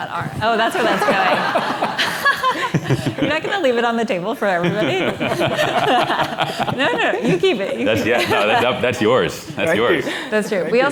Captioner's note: laughter